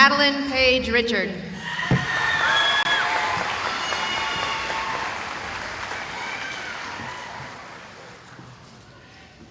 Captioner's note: cheering